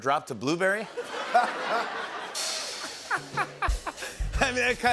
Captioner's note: laughter